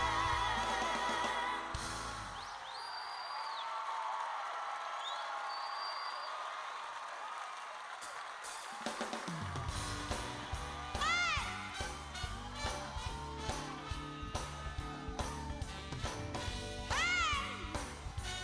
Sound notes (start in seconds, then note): 7.7 cheers and applause